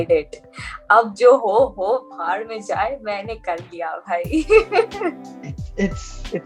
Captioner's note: laughs